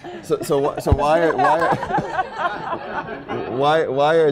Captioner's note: laughter